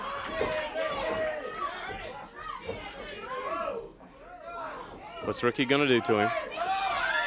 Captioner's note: crowd cheering